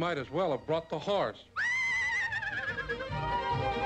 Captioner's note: neighing